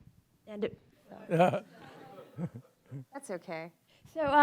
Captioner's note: audience chuckling